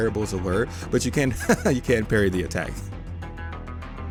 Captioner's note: muffled laughter